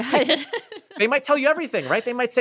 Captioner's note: laughs